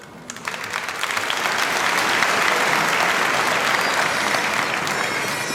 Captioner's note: applause